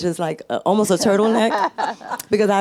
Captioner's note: panelists laughing